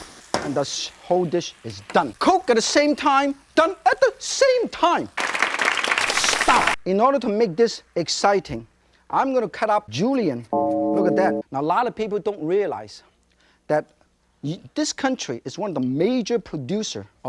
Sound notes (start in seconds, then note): 5.1 audience applause; 10.6 funeral bell; 14.4 stammers